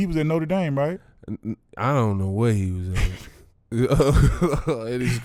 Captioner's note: laughs